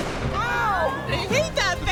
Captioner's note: gun blasting; women exclaiming